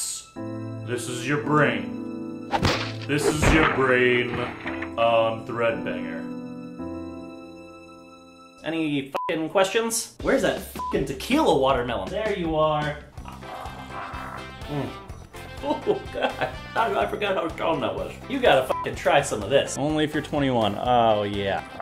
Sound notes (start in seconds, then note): 2.5 karate chop sound; 6.3 sad, dramatic music